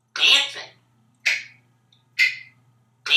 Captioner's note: finger snapping sound